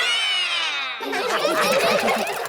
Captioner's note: all roar; all laughing